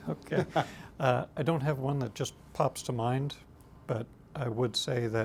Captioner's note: laughs